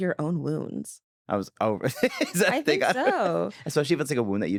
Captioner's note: laughing